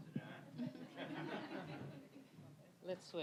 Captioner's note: audience laughing